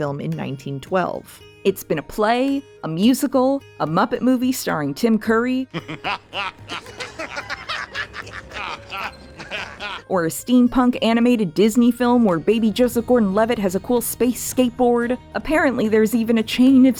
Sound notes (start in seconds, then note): 5.7 Tim Curry doing That Laugh